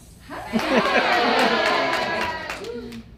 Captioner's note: cheering